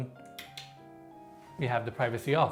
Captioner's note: switch clicks